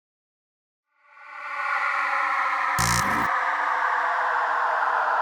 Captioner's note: electronic buzzing